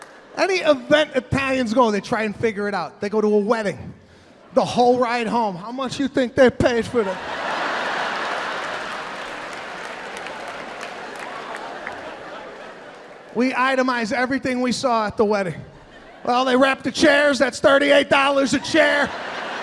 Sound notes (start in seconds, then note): 6.8 audience laughing; 18.4 audience laughing